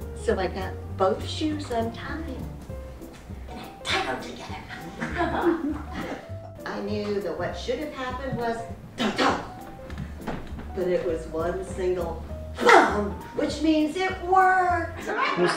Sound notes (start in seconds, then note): 4.8 audience laughs; 8.8 imitates thudding